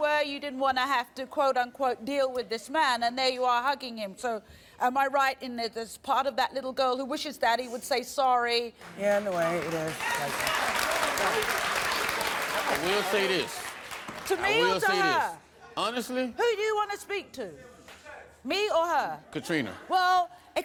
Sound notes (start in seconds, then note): 9.2 cheering